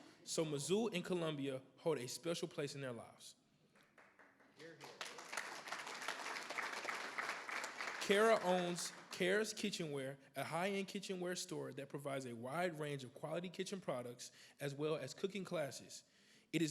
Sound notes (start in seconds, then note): 3.8 everybody applauds